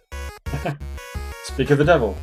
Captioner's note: laughs